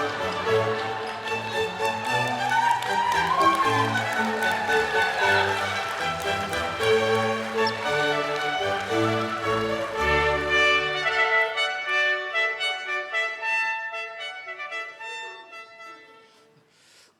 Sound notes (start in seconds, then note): 0.5 audience applauding; 4.1 audience cheering